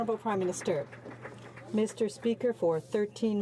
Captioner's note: some Applause